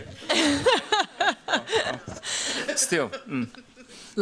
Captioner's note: laughter